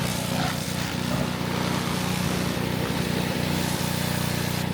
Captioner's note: spray hissing continues